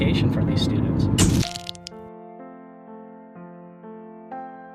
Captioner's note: camera snapping